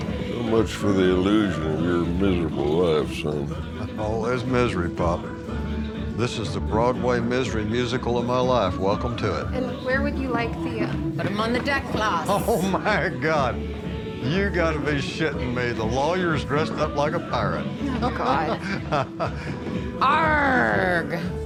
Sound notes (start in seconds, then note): 19.2 laughs